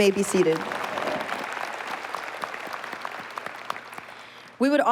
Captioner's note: applause